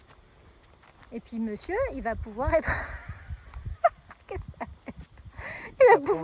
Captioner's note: laughs